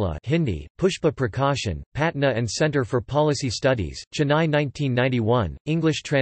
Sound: Hindi

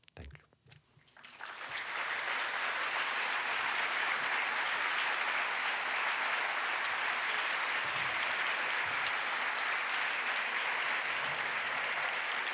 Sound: applause

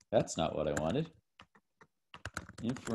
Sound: typing

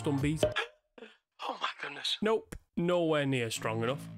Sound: gasp

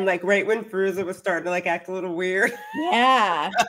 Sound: laughs

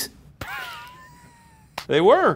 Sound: laughs

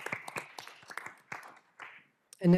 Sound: applause

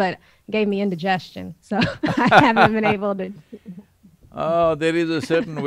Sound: both laugh

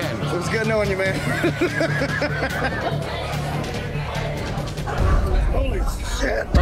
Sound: laughing

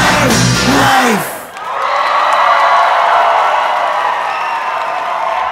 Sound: audience cheering

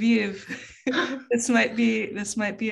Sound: laughing

